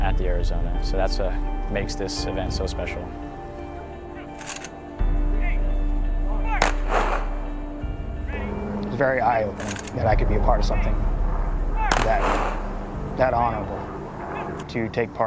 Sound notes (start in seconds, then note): 3.4 somber Music; 6.6 gun Shots